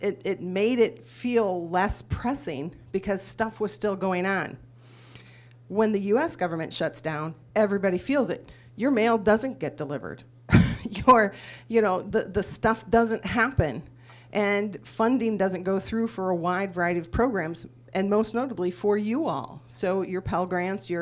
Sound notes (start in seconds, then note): 11.9 laughs